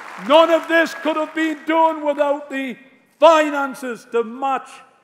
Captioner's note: applause